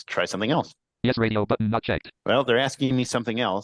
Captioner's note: computerized voice